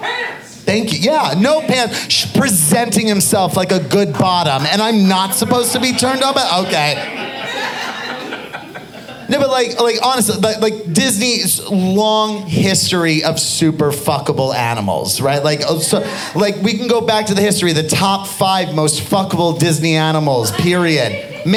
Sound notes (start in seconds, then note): 7.2 audience laughing